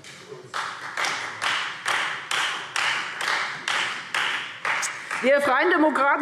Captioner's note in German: Beifall Freie Demokraten